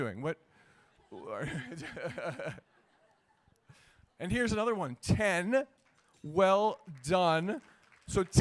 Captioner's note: laughter